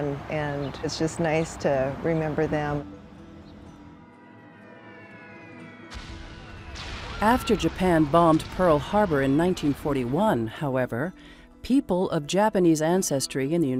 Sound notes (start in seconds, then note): 3.9 aircraft buzzing; 5.9 bombs booming